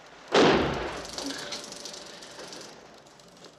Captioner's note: sound of film spooling; gunshot